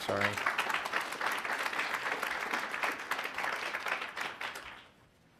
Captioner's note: attendees applauding